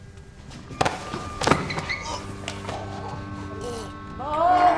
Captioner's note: choking